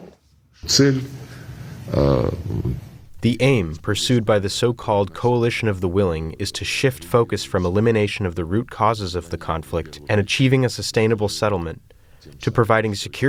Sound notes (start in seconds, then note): 3.2 through translator